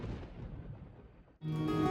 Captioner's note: thunder